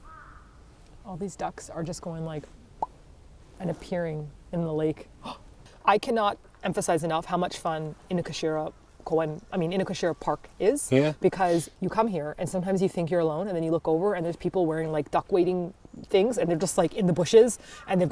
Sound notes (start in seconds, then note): 3.2 tongue clicks; 5.7 gasps